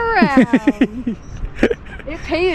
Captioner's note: laughing